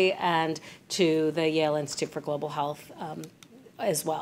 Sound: none

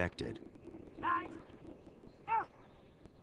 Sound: shouting

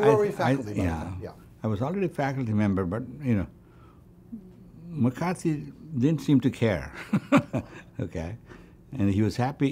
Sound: laughs

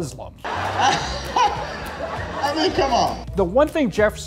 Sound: laughs

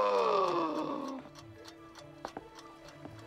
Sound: gasping; ticking

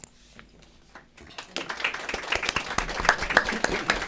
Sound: applause

